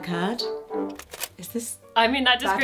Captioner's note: tape clicking